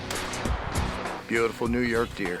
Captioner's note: gun shots